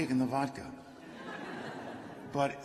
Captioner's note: laughter